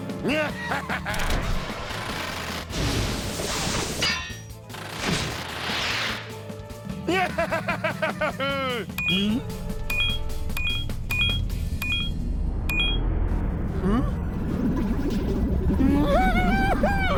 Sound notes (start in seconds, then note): 0.2 evil laughter; 3.7 clink; 7.0 laughing; 9.8 beeping; 15.8 whimpers nervously